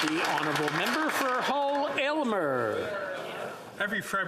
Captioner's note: applause